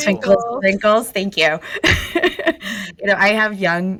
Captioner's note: laughs